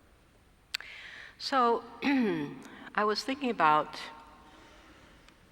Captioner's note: cough